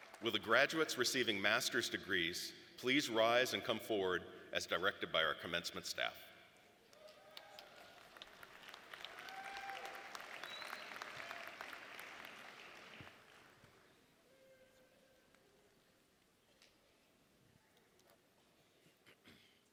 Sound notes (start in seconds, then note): 9.2 audience applauding